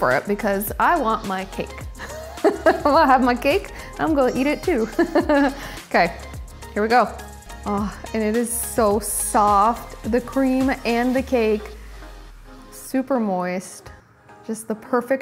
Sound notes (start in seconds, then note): 2.0 laughs; 4.7 laughs